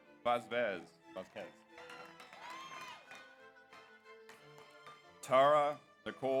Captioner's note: audience applauds; audience cheers